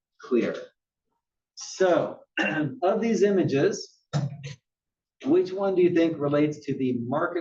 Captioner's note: cough